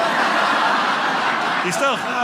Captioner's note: audience laughing